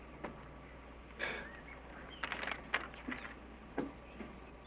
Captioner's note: scoffs